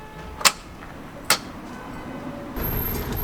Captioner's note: engine does not start again